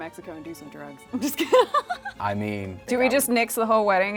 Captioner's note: laughs